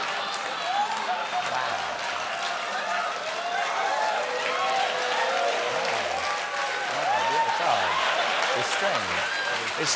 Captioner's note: applause; laughter